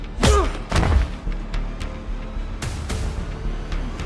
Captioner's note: kick thudding; dramatic music